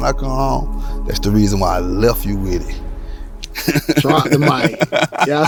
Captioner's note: laughs